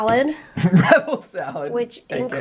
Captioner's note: laughing